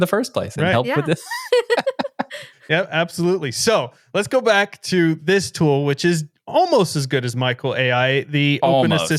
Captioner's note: laughing